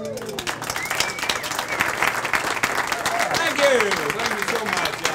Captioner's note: audience applauds